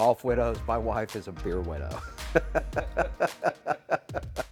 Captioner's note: laughing